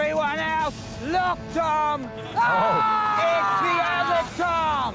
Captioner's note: yells